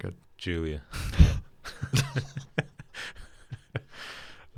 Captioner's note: both chuckle